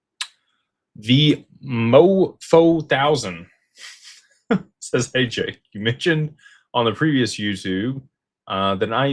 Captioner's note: laughter